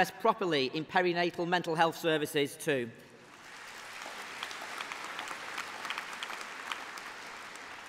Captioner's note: applause